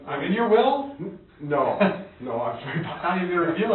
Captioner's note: chuckles